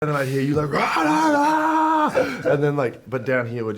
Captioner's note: imitates Oscar shouting